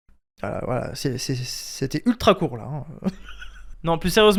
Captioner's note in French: Rire